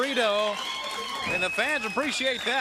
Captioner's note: crowd cheering